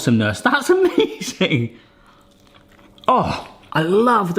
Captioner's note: groans